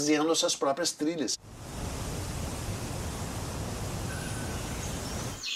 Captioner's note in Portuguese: som de cachoeiras; pássaros cantando